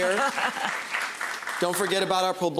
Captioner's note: laughs; applause